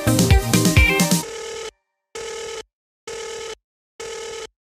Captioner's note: phone ringing